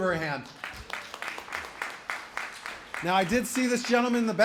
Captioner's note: applause